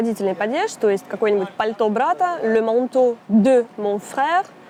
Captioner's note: french